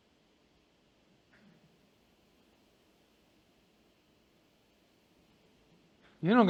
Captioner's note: pause